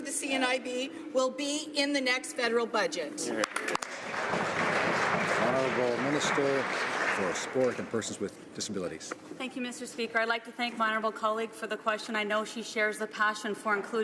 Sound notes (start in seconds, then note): 8.3 some Applause